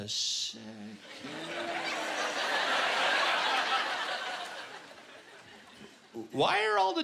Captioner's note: laughter